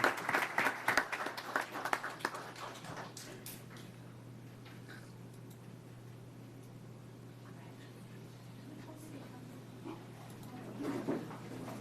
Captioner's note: applause